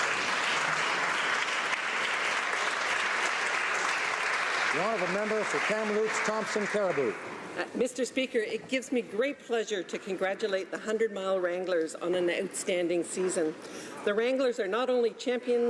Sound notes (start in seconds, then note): 3.7 applause